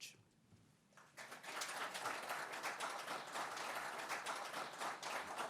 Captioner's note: audience applauds